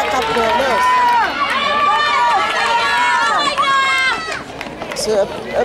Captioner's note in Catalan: La gent anima